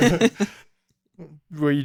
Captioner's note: laughs